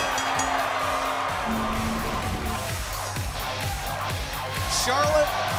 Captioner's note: bell ringing